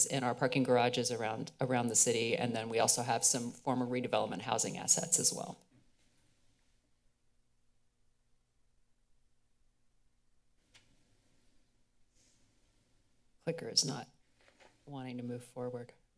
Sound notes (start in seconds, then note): 5.6 silence